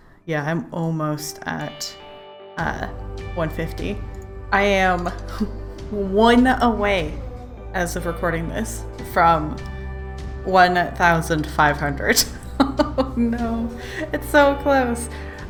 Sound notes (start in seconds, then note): 12.3 laughs